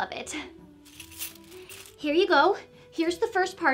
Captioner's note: coins clinking